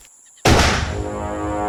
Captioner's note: gunshot